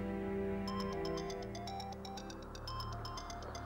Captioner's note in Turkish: Telefon çalıyor